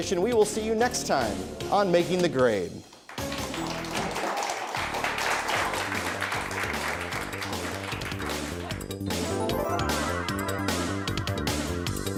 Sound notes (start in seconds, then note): 3.0 audience applauds; 7.6 upbeat music